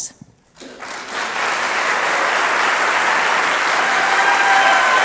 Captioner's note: audience applauding